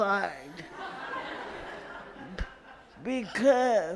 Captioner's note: audience laughs